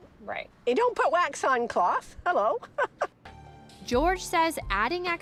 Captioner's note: chuckles